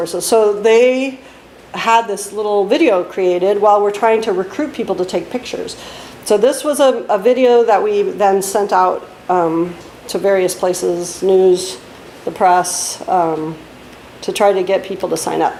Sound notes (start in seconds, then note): none